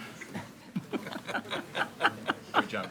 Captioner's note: group laughs